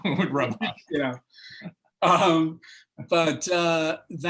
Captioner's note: laughter